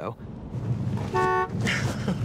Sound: car beeps; laughs

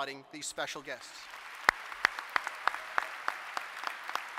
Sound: applause

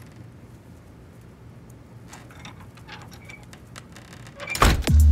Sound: door creaks and shuts; groovy music

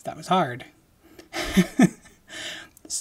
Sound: laughing

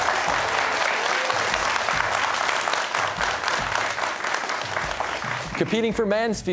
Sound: cheers and applause

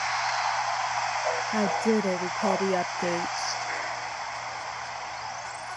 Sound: in a robotic voice

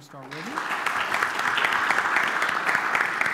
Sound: applause

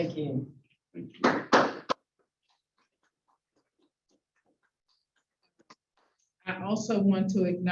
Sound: applause

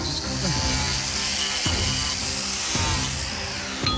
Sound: grinding; striking horse shoe

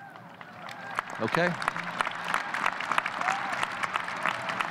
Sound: audience cheers

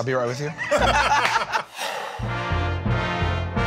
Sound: laughter

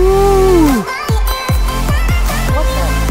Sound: bell dings

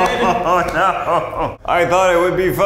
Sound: laughing

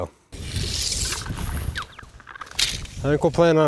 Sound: tape measure stretching

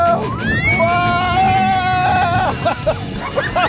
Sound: screaming

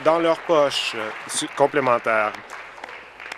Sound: applause

